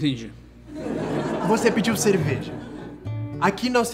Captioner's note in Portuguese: risadas